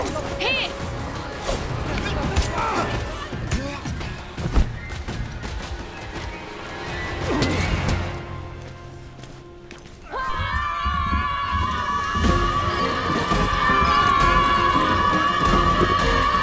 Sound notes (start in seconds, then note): 2.6 Ichor shouts; 2.6 blade slices; 7.2 hit lands; 10.0 prisoners shout